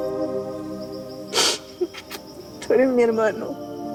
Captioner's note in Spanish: Sollozos